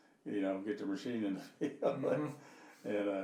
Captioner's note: laughing